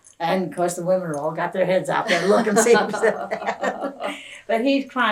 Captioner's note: laughter